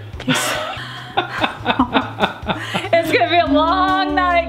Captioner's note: laughing